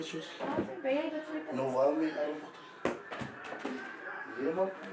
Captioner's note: speaking in afrikaans